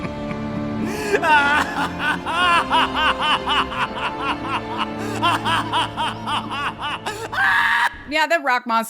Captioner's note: meniacal laugh